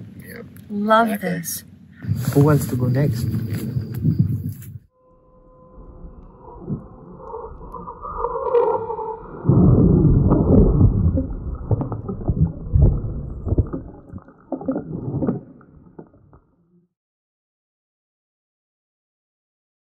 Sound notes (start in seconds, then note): 4.4 wind gusting; 6.6 wind whistling; 9.7 wind gusting; 14.5 air whooshing